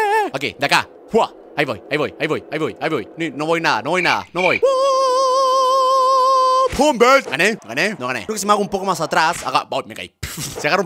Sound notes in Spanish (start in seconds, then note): 4.2 sonidos de grillo